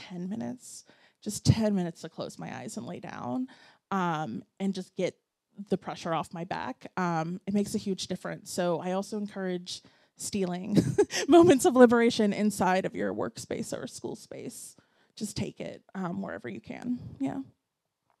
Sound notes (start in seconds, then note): 10.3 laughs